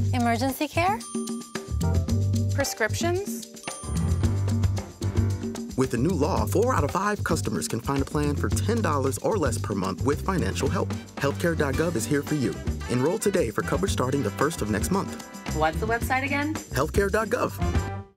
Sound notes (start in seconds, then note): 1.0 bell dings; 3.6 bell dings